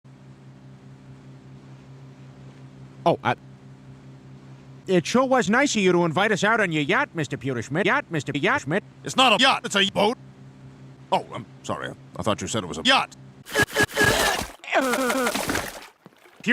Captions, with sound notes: [boat engine humming] Oh uh! It sure was nice of you to invite us out on your yacht Mr Pewterschmidt yacht Mr Yachterschmidt It's not a yacht it's a boat Oh I'm sorry I thought you said it was a yacht [puking noises]